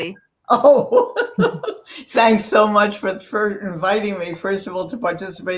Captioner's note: laugh